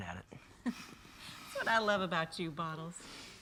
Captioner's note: laughs